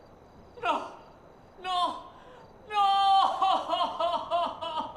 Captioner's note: crying